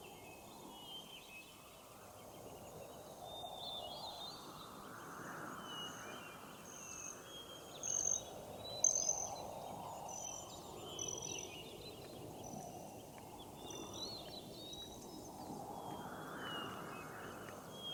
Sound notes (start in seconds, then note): 5.3 wind whistles; 5.6 birds chirp